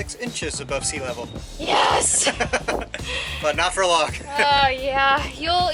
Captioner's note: laughter